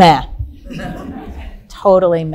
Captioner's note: audience laughing softly